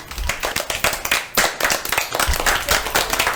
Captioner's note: applause